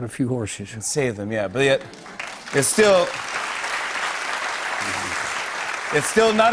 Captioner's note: applause